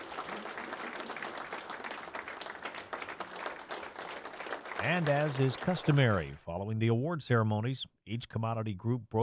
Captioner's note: clapping